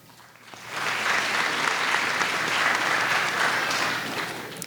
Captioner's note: audience applauds